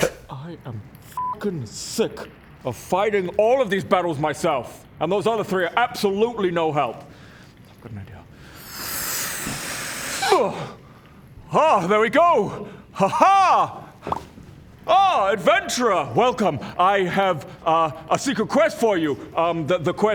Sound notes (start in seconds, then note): 8.4 inflates; 9.3 pop; 14.0 pop!